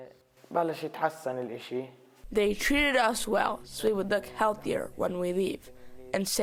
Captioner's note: through translator